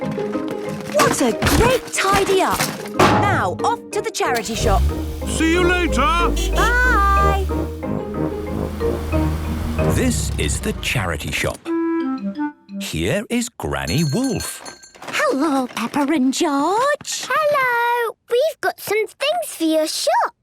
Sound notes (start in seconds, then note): 4.4 honking; 13.9 bell jingling